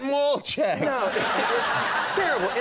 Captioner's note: crowd laughing